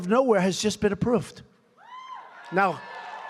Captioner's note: applause